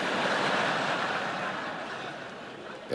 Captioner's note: laughter